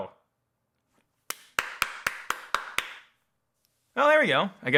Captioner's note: claps